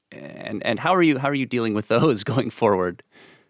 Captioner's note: chuckles